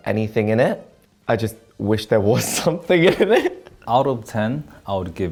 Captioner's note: laughs